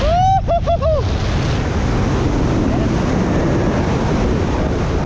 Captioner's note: pilot joyfully screams